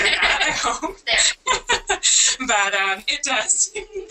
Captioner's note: laughter